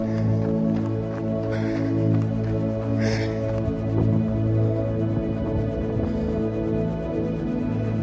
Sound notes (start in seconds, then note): 0.0 breathing heavily